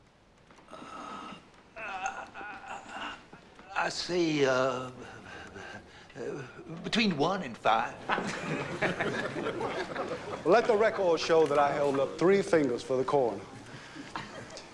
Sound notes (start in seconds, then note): 4.6 chuckling